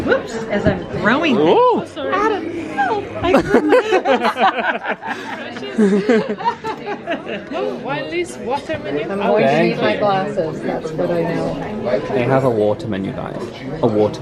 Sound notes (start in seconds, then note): 2.3 they laugh